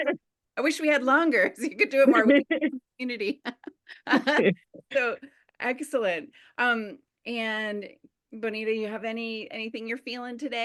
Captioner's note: laughter